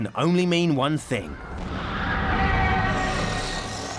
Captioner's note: people screaming